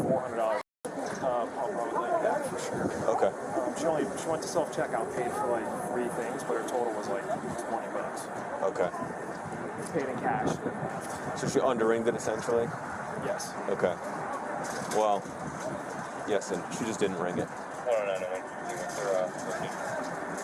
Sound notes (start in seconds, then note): 18.6 radio chatter